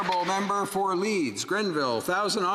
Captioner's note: some Applause